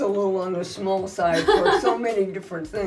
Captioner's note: laughs